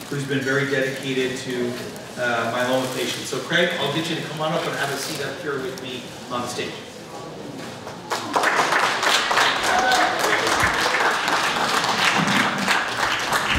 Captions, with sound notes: who's been very dedicated to myeloma patients. So, Craig, I'll get you to come on up and have a seat up here with me on stage. (audience applauds)